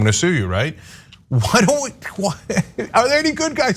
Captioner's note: laugh